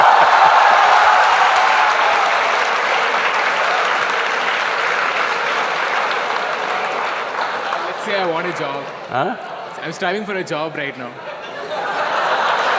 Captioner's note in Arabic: تصفيق